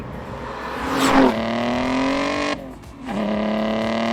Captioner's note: engine revving